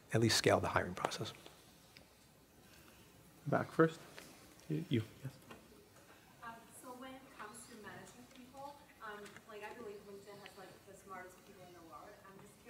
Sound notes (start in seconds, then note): 6.8 voiceover